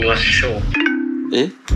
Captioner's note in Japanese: 通話が切れる音